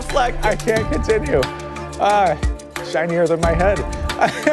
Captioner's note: laughter